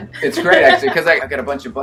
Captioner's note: laughs